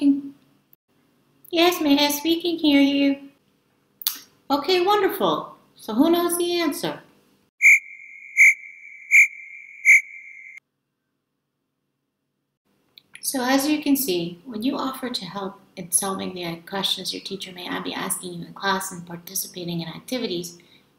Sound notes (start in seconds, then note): 7.6 cricket sounds